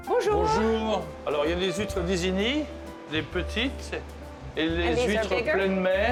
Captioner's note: speaking French